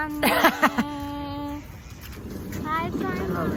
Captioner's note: laughs